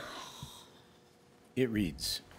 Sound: groans

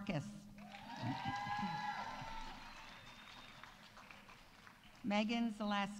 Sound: audience applauding; audience cheering

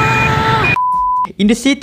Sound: beep

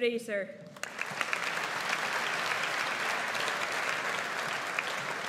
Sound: audience applauds

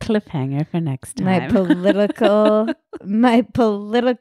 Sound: laughing

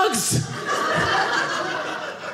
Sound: audience laughing

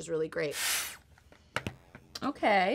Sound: air tool whooshes

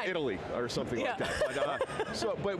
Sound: laughs

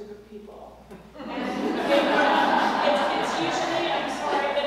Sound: laugh

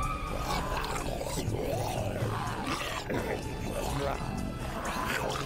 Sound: zombies growling

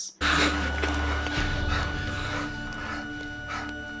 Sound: monitors beeping

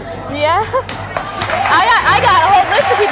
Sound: audience cheering and clapping

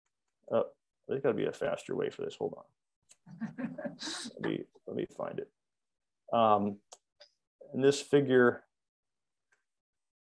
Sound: laughter

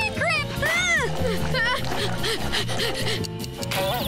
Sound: groaning, panting; chirping

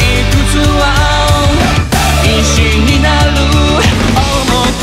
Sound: woo-hoo

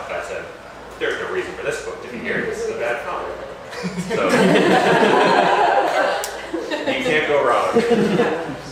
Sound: laughter

